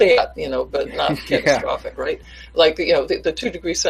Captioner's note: laughs